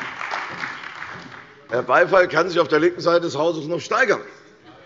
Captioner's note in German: Beifall bei der CDU und dem BÜNDNIS 90/DIE GRÜNEN – Zurufe von der SPD